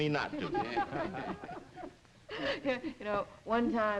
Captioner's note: group chuckles